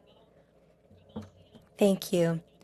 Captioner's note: speaking French